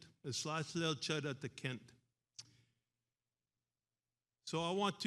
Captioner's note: speaks in foreign language